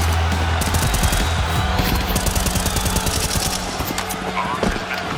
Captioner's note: gun clicking; gun firing